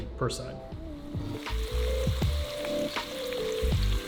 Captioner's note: sizzling